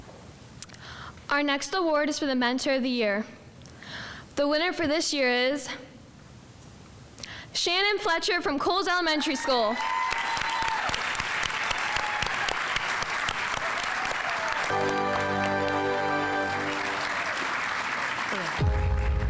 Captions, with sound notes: - Our next award is for the Mentor Of The Year. The winner for this year is Shannon Fletcher from Coles Elementary School. (audience applauding) (instrumental music)